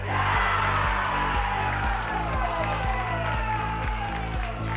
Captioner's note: crowd cheers